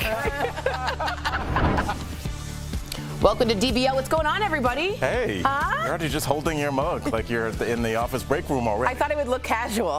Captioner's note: laughter